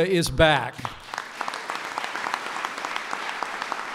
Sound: applause

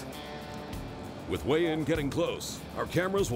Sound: voiceover

